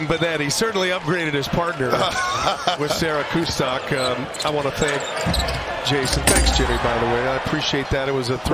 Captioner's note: laughter